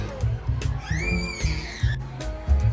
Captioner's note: cue screaming